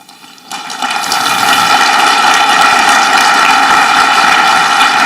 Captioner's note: audience clapping